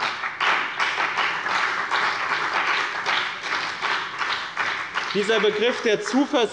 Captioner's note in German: Beifall bei dem BÜNDNIS 90/DIE GRÜNEN und bei der CDU